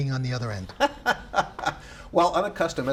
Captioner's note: laughs